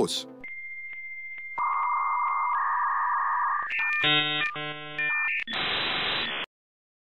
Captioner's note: old modem noises